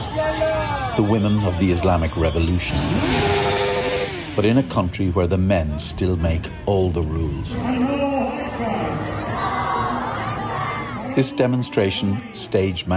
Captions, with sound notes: the women of the Islamic Revolution. [horn honking] But in a country where the men still make all the rules. [crowd chanting] This demonstration stage